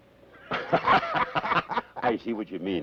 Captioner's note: both laugh